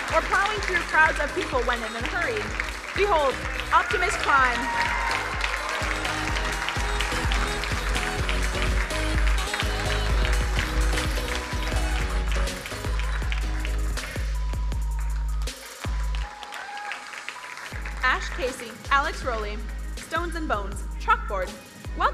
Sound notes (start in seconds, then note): 4.7 crowd cheering and applauding; 7.2 upbeat music; 14.1 ambient music